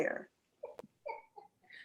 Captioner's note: giggling